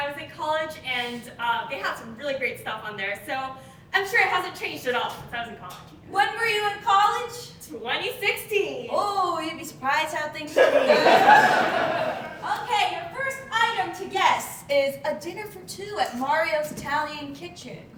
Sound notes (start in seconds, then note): 10.5 audience Laughing